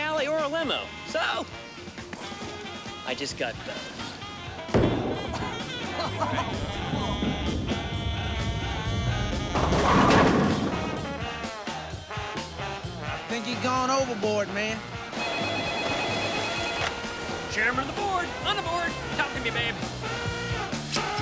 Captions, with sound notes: OR A LIMO. SO... I JUST GOT BOTH. [SOUND OF BOWLING BALL ROLLING] [BALL HITTING PINS] I THINK HE'S GONE OVERBOARD, MAN. [RING] CHAIRMAN OF THE BOARD, ON THE BOARD. TALK TO ME, BABE.